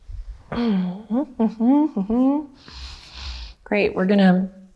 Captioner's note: humming